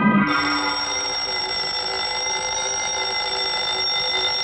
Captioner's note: alarm ringing